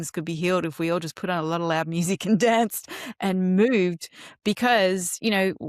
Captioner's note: laughs